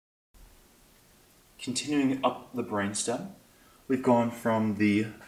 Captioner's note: voiceover